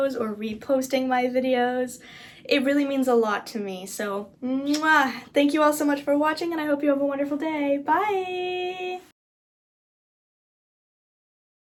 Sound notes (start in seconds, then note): 4.6 muah